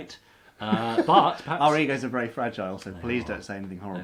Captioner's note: laughs